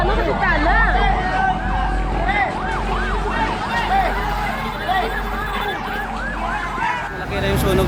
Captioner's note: firetruck siren continuously wailing